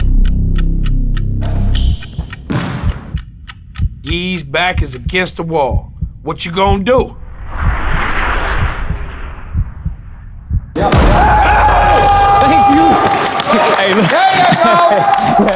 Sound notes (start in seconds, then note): 1.6 clock ticking; 1.6 intense music; 2.9 heart beating; 7.1 intense music; 7.8 heart beating; 10.7 dunkers cheering